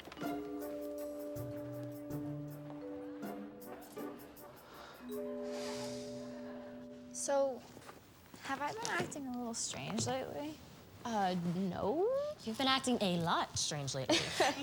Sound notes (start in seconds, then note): 0.1 curious orchestral music; 5.0 Billy sighs; 14.0 Eliza laughs